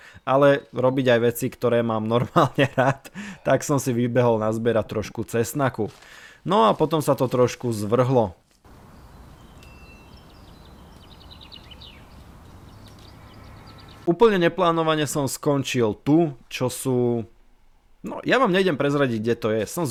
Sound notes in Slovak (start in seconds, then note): 2.1 smiech